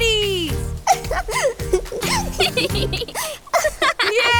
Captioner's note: laughter